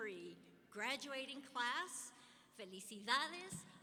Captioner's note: speaking in Spanish